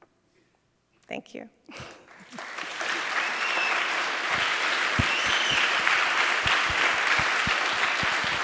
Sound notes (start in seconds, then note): 1.8 applause